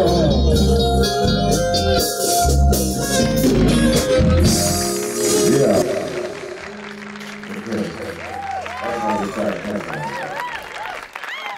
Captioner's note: applauds and cheers